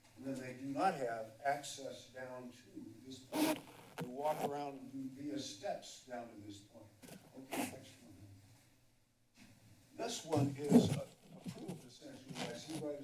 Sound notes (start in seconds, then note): 8.5 pause